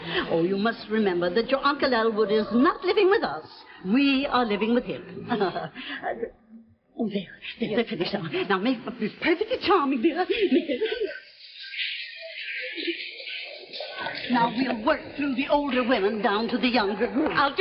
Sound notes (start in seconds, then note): 11.0 laughing; 11.0 people clapping